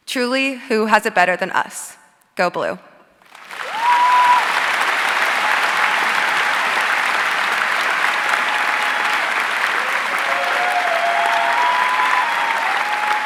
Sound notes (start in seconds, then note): 3.2 audience cheering and applauding